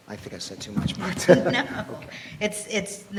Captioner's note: laughs